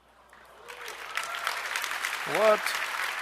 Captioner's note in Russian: аплодисменты